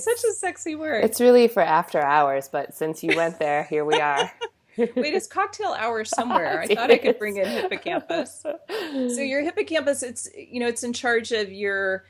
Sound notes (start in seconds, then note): 3.8 laughs